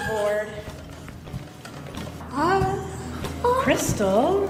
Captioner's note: makes whining sounds